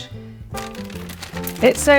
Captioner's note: paper rustling